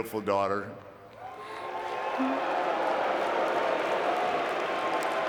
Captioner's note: audience cheering and clapping